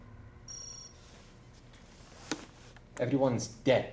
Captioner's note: beep